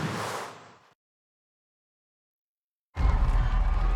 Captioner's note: cheering and Applause